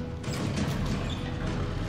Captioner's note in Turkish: Kapı sesi